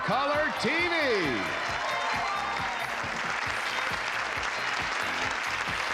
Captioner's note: cheering, applause